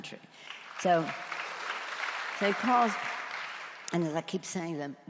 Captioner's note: audience applauds